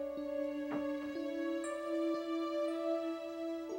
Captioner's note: door thuds